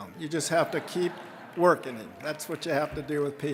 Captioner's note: audience laughing